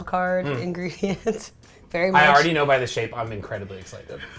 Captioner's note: laughs